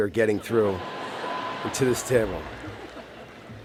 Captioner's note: laughter